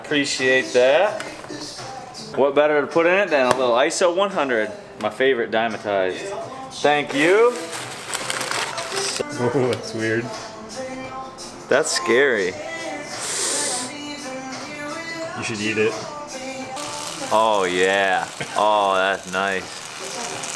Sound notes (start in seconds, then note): 16.8 buzzing